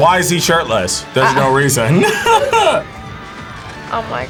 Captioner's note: laughs